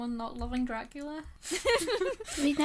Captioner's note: hosts laugh